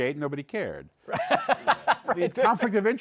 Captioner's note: laughs